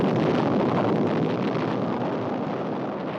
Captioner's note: atomic explosion